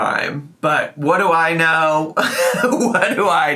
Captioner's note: laughs